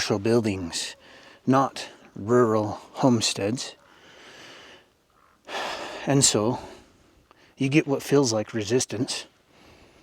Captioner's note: sighs and gasps